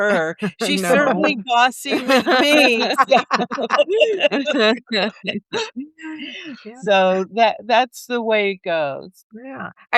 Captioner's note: laughter